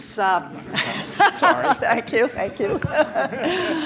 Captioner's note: laughs